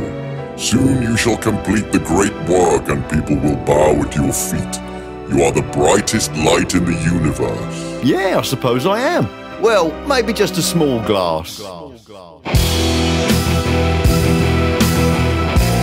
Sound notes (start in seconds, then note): 11.5 echo